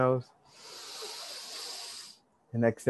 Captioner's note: inhale deeply